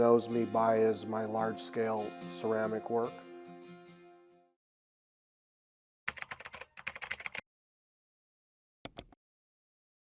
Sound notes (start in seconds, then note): 6.0 keyboard keys tapping